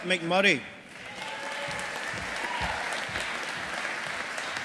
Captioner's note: audience applauding